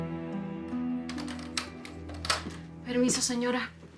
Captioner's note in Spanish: Sonido al abrir la puerta